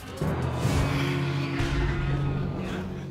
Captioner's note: sighs